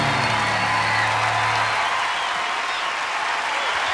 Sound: cheers and applause

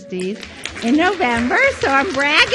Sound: audience cheers

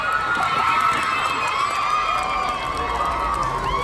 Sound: cheering

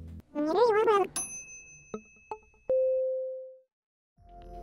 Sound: dinging

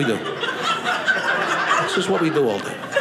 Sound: audience laughing

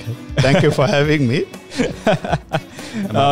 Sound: laughs

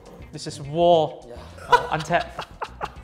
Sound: laughs

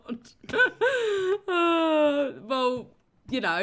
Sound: laughing

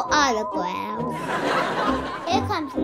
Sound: audience laughing

